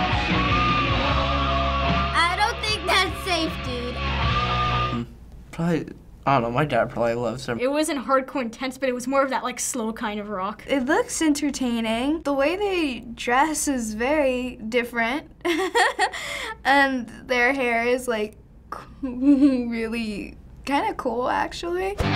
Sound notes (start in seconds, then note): 15.5 laughing; 22.0 metal music